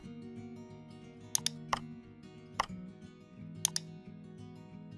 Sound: keyboard clicks

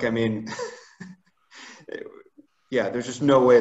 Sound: laughs

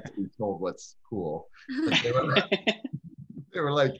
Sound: all laugh

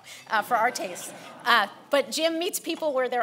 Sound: laughing

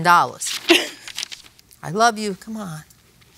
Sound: laughs

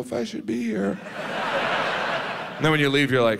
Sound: audience laughs

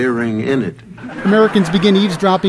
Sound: laugh Track

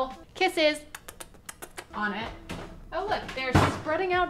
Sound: lips smacking

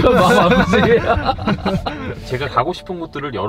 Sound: laughs

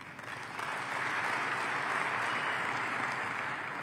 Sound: applause

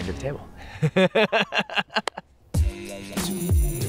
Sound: laughs

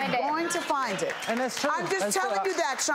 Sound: applause

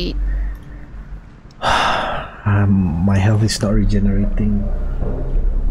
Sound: sigh

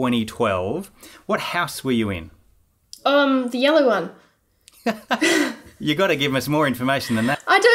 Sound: both laughing

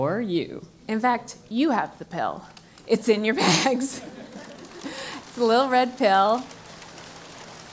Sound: laugh

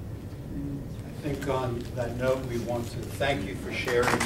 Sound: applause

